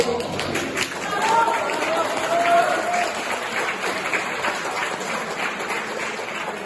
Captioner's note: lots of clapping